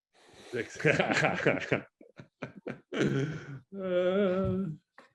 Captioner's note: laugh